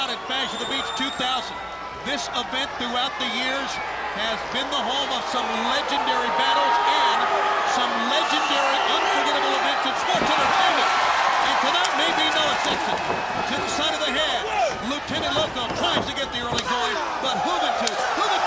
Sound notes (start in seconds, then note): 11.0 crowd chatter